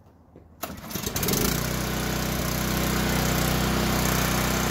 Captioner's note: motor starts